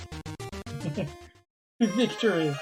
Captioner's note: friendship fanfare; chuckles